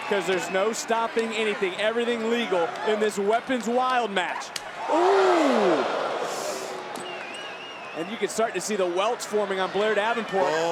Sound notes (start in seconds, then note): 4.8 crowd oohing; 6.5 crowd whistling